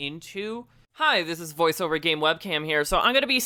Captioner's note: voiceover